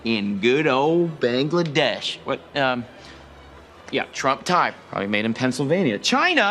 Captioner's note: none